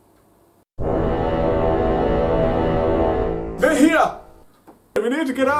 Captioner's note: loud horn sounds